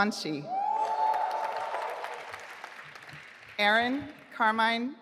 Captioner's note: audience applauding